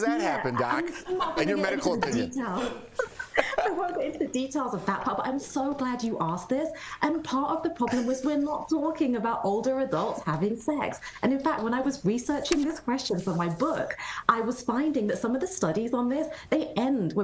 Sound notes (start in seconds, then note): 2.5 laughter